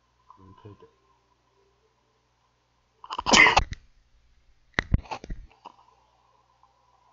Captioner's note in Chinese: 感冒—打噴涕